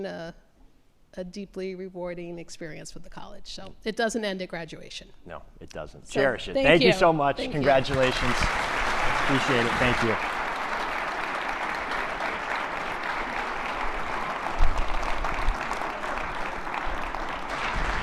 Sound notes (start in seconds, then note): 8.5 attendees clapping; 10.4 attendees clapping